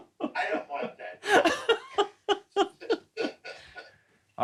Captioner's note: laughs